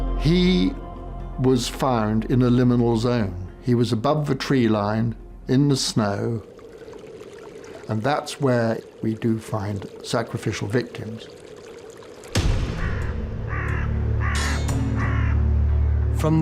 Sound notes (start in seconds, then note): 6.6 brook babbling; 12.3 dramatic music; 12.5 crow calling